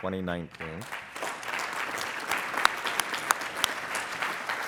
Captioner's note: applauding